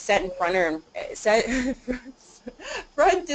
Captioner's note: laughter